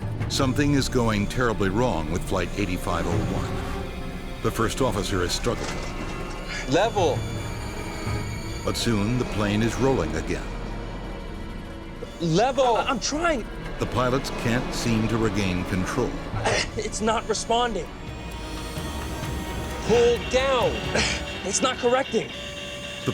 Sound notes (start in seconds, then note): 0.4 voiceover; 8.8 voiceover; 13.9 voiceover